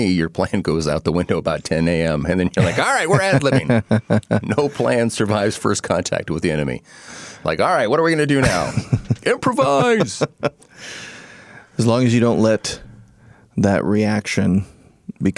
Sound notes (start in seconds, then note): 6.4 laughing